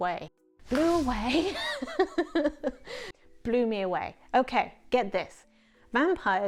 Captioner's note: swoosh noise